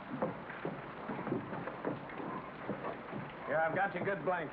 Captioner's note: rain patters